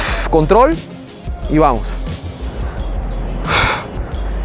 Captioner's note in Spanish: expiración